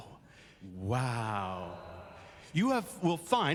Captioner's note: audience says wow